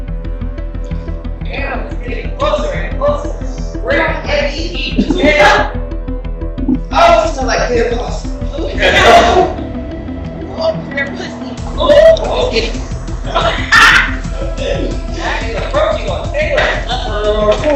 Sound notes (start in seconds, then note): 10.3 cackle